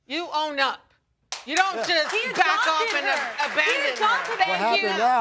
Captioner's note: audience applauding